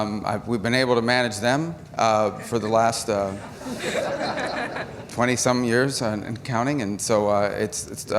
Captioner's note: laughter